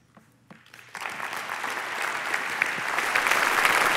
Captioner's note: applause